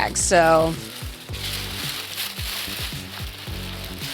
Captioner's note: paper rustling